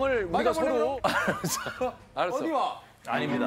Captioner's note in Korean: 스윽